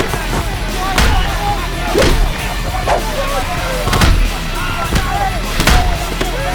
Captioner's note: gangsters clamoring; blows thudding; air whooshing